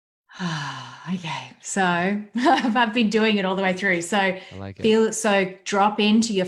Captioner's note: sighs